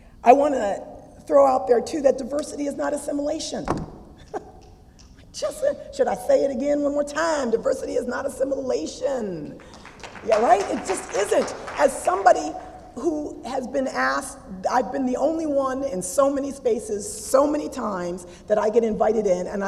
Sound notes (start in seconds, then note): 4.2 laugh; 9.6 applause